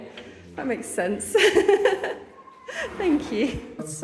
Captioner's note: laughing